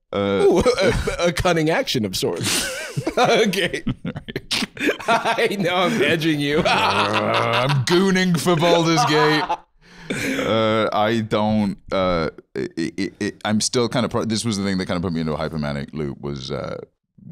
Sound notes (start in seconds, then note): 2.4 laughing; 7.2 growling; 12.5 stammering